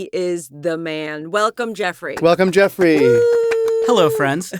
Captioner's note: cheers